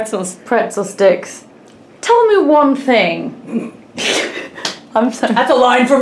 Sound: laughs

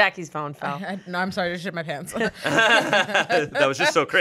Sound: everyone laughs

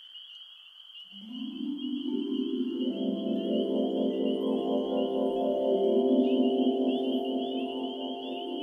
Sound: magical chimes

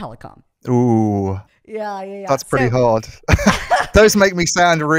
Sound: laughs

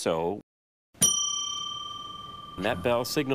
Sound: bell dings

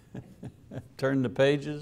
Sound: chuckling

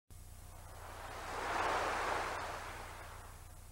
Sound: water cascading

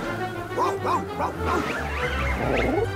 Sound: excited cooing

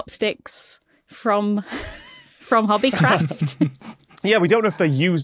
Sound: group chuckling

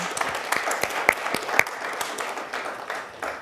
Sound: applause

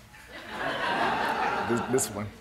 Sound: laughter

